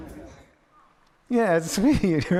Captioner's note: audience applauds quietly